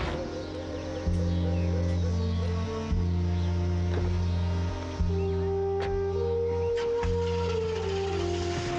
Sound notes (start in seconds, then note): 5.6 car starts